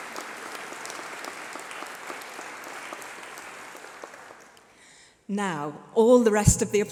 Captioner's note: applause